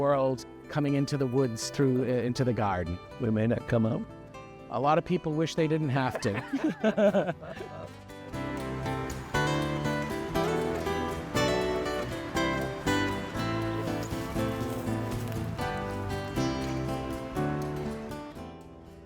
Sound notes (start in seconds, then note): 6.0 laughter; 7.7 soft breeze